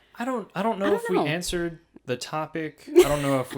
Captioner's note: laughs